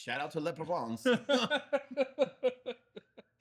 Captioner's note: laughing